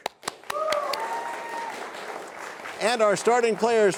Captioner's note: cheers and applause